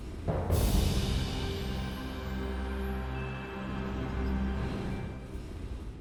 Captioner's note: soft music; wind whooshing